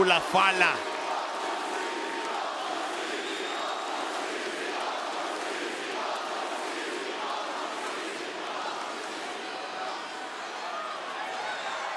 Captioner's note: applause